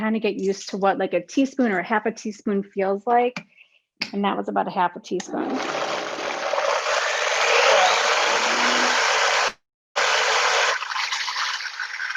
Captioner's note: whirring